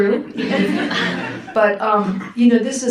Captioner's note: audience laughs